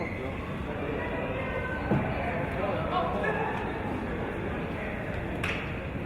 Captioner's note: chatter of audience and players